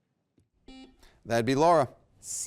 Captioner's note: buzzer beeps